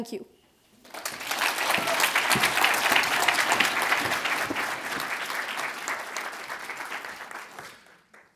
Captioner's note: audience applauds